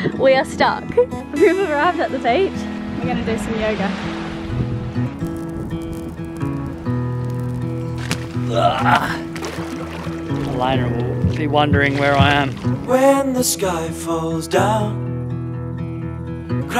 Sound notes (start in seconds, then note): 8.7 groaning